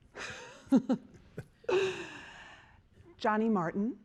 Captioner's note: chuckling